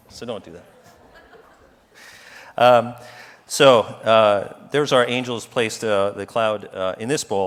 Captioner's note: laugh